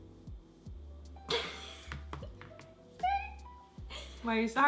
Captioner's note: laughs